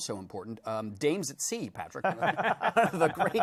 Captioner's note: laughing